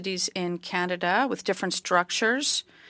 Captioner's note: speaking French